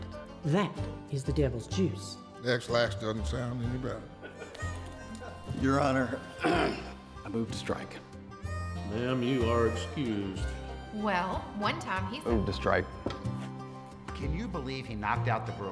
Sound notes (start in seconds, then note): 4.2 court chuckling; 6.4 clears throat